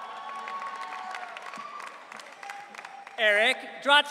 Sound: audience cheering

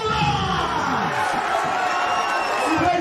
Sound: crowd cheering

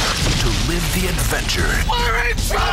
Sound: voiceover

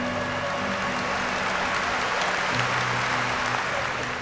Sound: applause

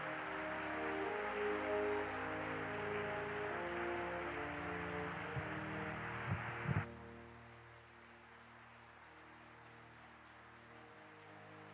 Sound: applause

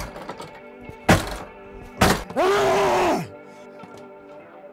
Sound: primal scream

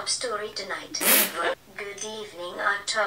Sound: spits

